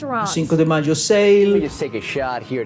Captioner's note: soundbite of archived recording